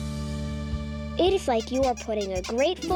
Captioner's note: squeaking